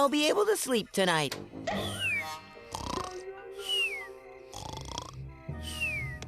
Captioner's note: snoring